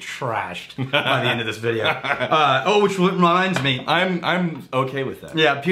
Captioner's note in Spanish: Riéndose